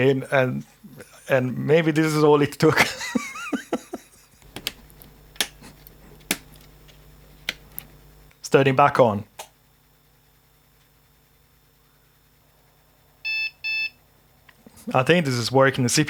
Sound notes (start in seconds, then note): 5.7 laughing; 13.2 beeping